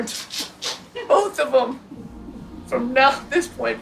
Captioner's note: woman laughs